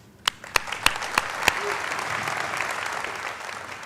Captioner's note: applauding